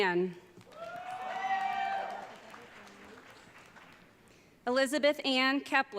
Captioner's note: audience cheering